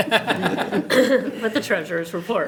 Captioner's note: everyone laughs